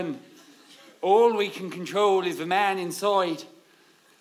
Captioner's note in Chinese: 偏向爱尔兰口音